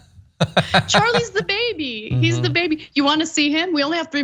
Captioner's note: laugh